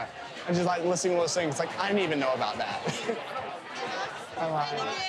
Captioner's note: laughs